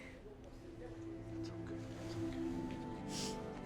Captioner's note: Tommy whispers